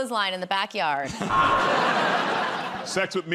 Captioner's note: buzzer